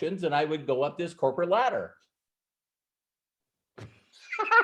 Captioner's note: laughs